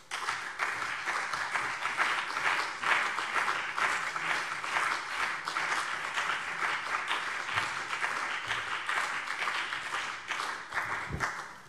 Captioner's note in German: Beifall CDU und BÜNDNIS 90/DIE GRÜNEN